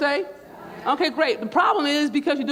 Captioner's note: crowd